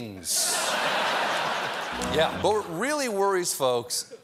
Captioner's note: laughter